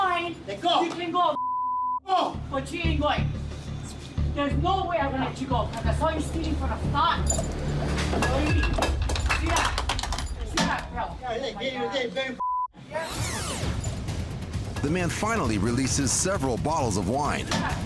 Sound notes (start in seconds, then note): 7.2 bottles clinking; 13.1 tape rewinds